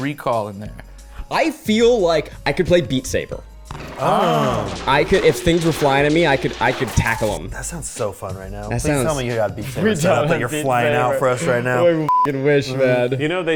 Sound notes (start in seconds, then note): 3.9 people exclaiming